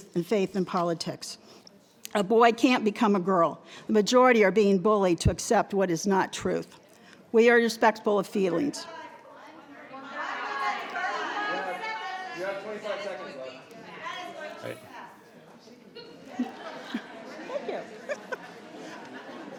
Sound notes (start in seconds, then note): 10.4 crowd faintly talking